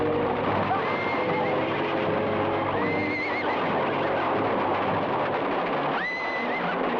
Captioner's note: horses whinny; horse hooves patter